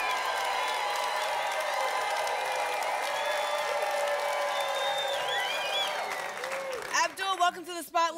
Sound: applause continues

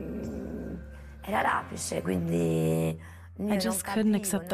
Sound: speaking in Italian

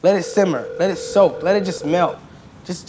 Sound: ringing

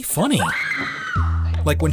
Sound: screams

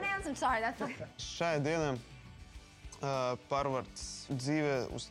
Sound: speaking Latvian

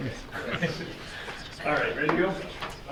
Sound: chuckling

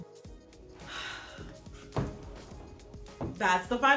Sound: sighs

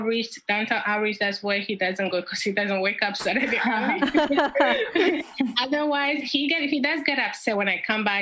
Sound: laughs

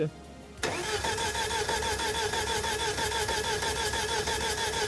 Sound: engine chugging

